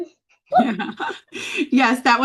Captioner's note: chuckles